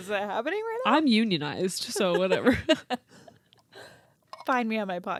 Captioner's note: both laugh